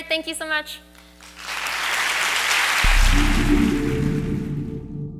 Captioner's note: audience applauds